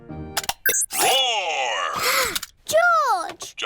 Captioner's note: gasps